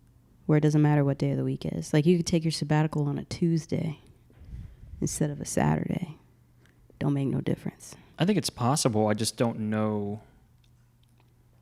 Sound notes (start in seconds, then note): none